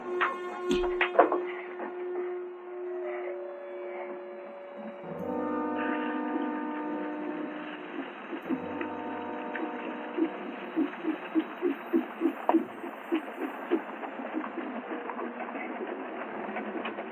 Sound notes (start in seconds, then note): 6.3 horses clopping